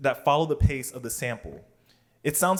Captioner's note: none